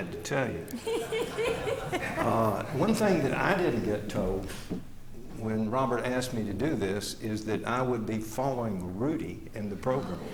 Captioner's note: laughter; laughter